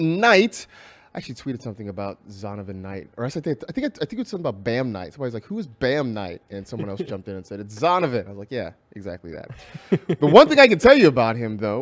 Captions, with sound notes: I TWEETED SOME IN ABOUT I THINK SOME IN ABOUT LIKE WHO IS HE CUSTOMER. [LAUGHS] THE WANTING A TIE ABOUT HIM AS HE IS THE FIRST JETS PLAYER IN